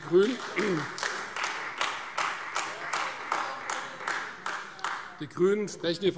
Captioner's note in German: Beifall Freie Demokraten und AfD